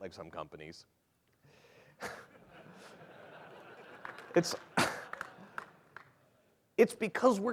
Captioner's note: laughter